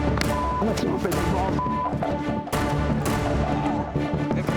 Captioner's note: beep; dramatic music